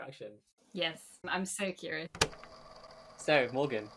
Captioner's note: tape recorder clicks on